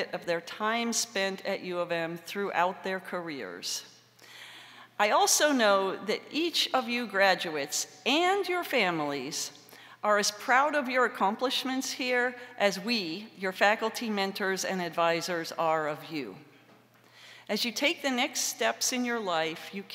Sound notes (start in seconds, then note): none